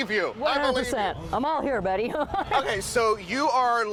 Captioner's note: laughs